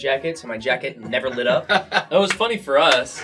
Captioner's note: laughs